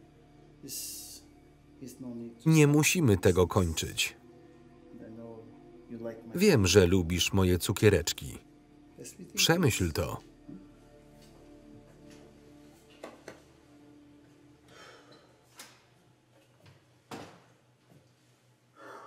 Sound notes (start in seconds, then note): 14.7 sighing